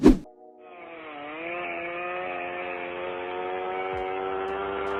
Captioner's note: chainsaw revving